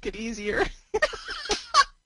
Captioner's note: laughs